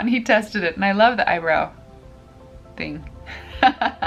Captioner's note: laughs